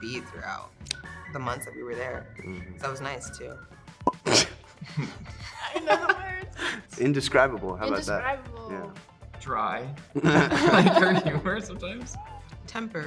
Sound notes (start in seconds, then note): 4.8 laugh; 10.1 multiple laugh